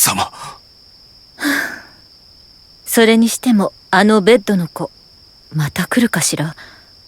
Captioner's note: sigh